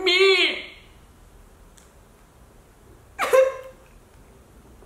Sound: crying

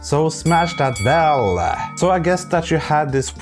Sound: bell rings

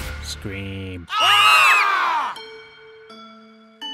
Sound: even more screaming

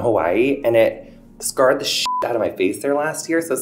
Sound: beep

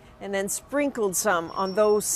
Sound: speaking alternate language

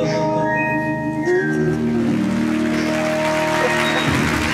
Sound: audience clapping

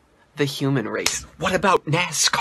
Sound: smack!

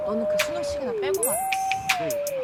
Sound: sparkle sound effect

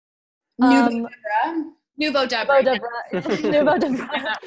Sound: speaks in foreign language; laughing

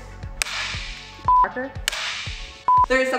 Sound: beep; clapperboard claps; beep; clapperboard claps; beep

